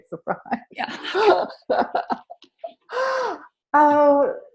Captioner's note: laughing